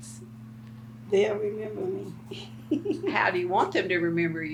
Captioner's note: laughs